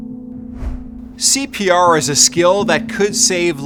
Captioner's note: soft music; logo whooshing